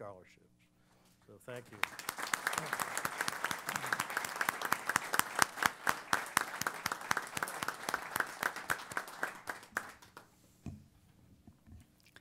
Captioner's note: applause